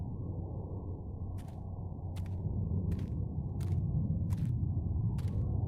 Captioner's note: footsteps crunching